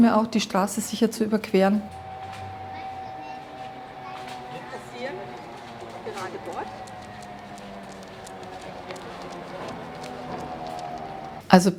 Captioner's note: traffic sounds and praising the guide dog